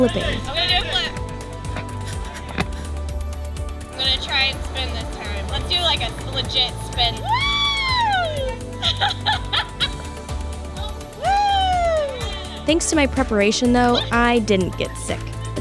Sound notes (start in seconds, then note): 7.4 yelling